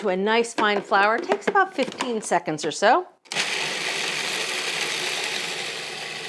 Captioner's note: processor whirs